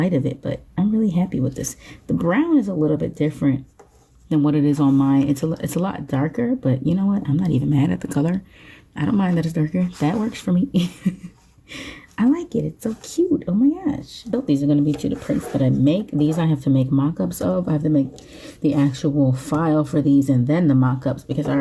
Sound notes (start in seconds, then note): 10.8 chuckles